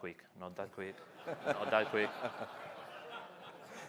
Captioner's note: laughter